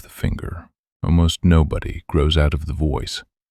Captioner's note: low voice